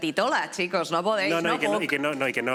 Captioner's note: catalan accent